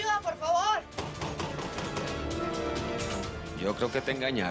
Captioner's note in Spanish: Golpea la puerta